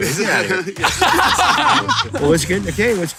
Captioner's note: laughing